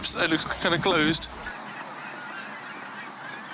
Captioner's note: seagulls, traffic